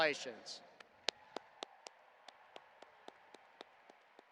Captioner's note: audience applauding